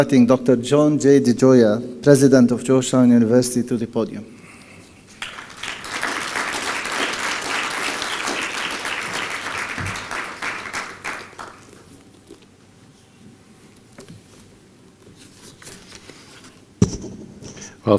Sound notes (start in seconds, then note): 5.1 applause